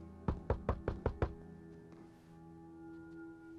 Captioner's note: knocking